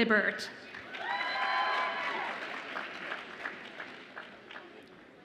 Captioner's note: audience applauds and cheers